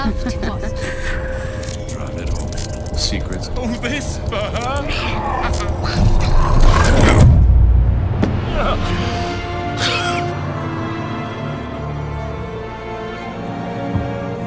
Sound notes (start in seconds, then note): 7.2 Marcus groaning; 7.2 somber music